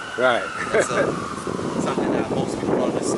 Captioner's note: camerman chuckles